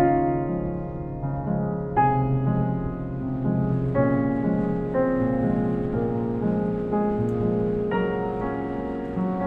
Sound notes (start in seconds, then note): 4.5 water rippling